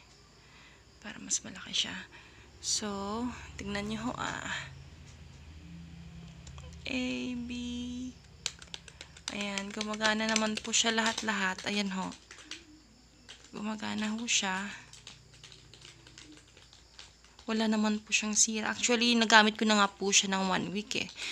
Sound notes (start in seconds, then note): 8.3 keys clicking